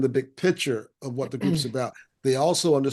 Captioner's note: clears throat